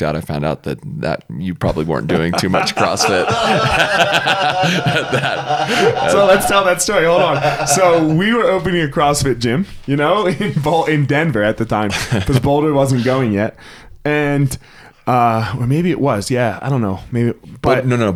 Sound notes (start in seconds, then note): 3.6 all laugh; 11.9 laughs